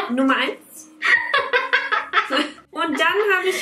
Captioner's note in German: lacht laut